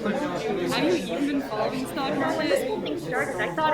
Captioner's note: chatter gets louder